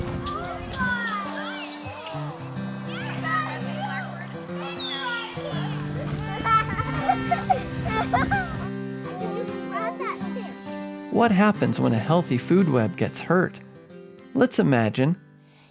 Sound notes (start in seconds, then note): 0.0 children chattering happily; 0.0 gentle music; 4.5 children laughing; 5.7 gentle music